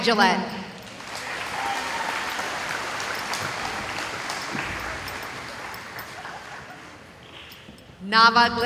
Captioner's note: cheering